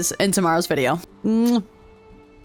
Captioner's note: kiss